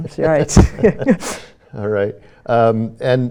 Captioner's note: both laugh